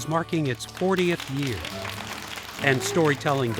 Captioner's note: kids clapping